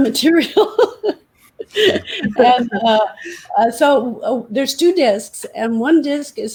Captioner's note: laughter